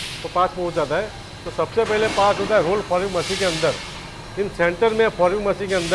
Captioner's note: roll fouling machine